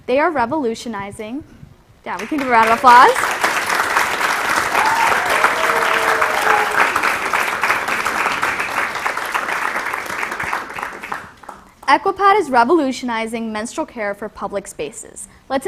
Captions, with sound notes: They are revolutionizing-- yeah, we can give a round of applause. [APPLAUSE] [CHEERING] Equipad is revolutionizing menstrual care for public spaces.